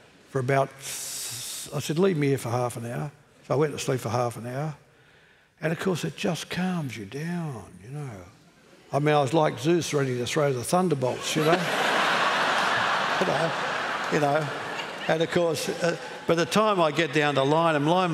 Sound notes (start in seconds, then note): 11.1 laughter